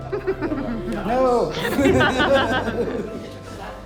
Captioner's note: chuckles